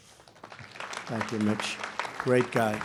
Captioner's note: applause